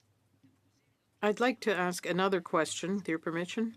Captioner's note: speaking French